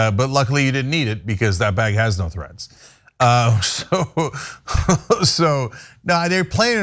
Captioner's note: laugh